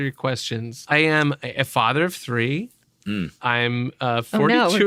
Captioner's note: laughing